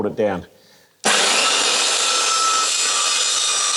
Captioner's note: circular saw sound